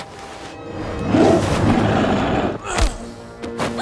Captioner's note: snarling; grunting